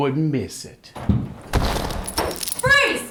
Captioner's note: door kicked open